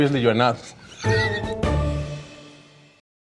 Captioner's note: chuckles; gentle music